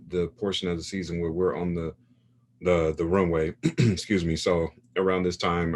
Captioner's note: clears throat